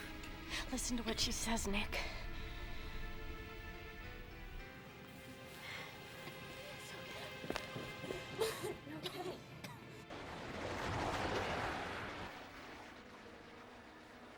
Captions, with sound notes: LISTEN TO WHAT SHE SAYS, NICK. YOU'RE OKAY. [ Churning Sound Continues ]